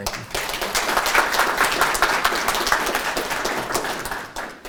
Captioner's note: audience applauding